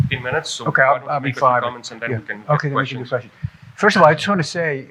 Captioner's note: murmuring